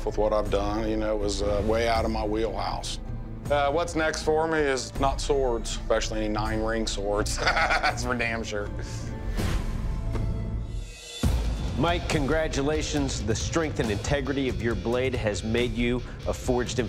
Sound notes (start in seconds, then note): 7.2 laughs